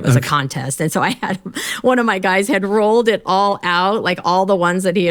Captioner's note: laughs